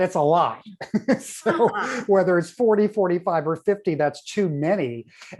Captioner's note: laughs